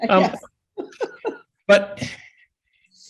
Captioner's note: laughs